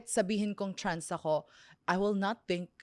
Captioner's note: none